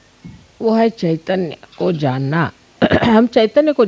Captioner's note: vibrations